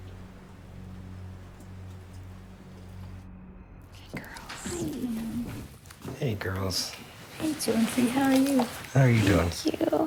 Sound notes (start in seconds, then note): 4.0 whispering